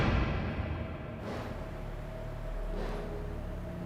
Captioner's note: objects clanging; banging